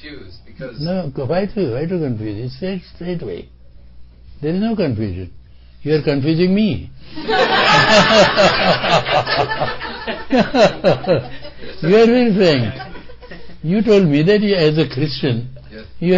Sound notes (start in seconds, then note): 7.2 laughter